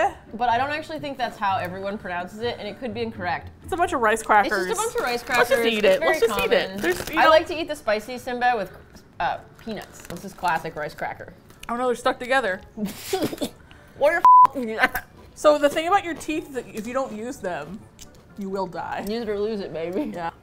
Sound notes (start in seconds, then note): 12.9 coughs; 13.1 mouth full; 19.4 laughs